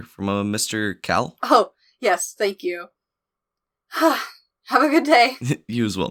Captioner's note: calmly, almost jokingly